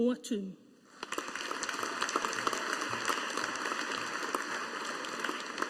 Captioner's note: audience applauding